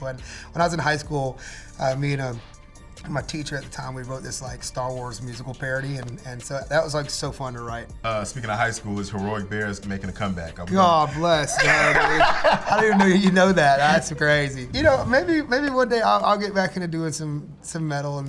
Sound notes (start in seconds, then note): 11.0 laughter